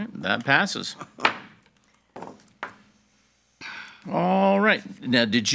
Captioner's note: gavel pounds